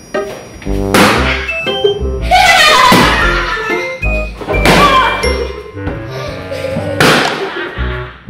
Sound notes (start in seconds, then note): 0.8 balloon pops; 2.7 laughing